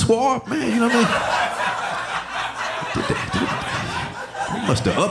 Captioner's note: audience laughing